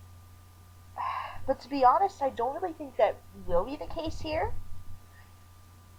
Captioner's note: sighs